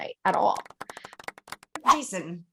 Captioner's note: golf claps